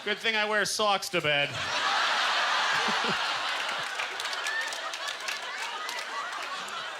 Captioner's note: audience laughter; applause; laughing